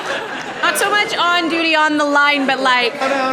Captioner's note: laughter